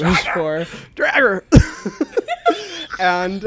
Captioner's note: both laugh